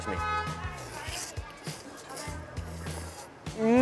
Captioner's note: slurping